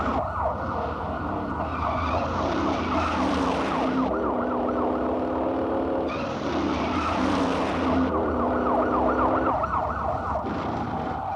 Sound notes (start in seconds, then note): 0.1 car engines revving; 3.1 police sirens blaring; 6.1 car engines revving; 8.6 police sirens blaring; 11.1 car engines revving